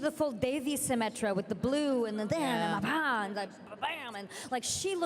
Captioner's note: excited vocalizations